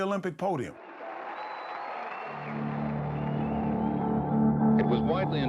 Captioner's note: cheers and applause